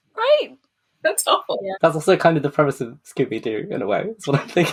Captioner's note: laughing